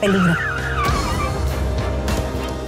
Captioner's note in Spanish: Chirrido de llantas